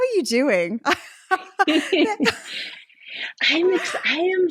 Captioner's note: laughing